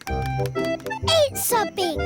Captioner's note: none